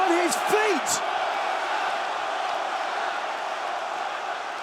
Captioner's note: crowd chanting